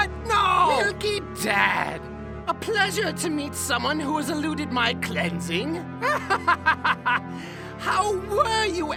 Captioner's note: laughs